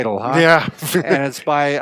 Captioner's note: laughing